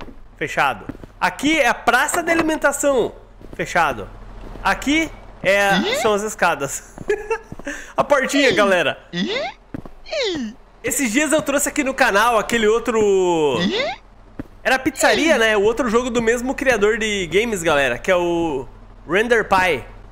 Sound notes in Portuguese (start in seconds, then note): 7.0 Risos